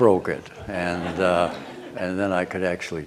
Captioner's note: laughter